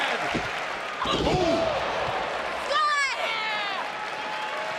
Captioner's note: crowd cheering